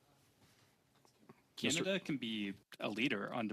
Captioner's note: speaking French